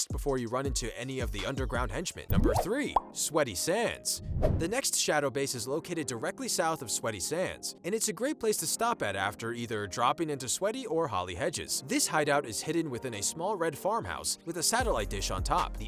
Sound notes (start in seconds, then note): 2.3 popping